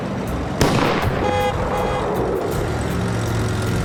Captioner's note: car backfires; horn honking